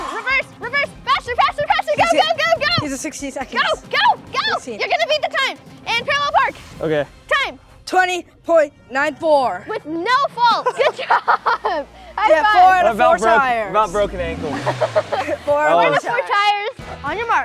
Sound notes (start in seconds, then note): 10.4 laughing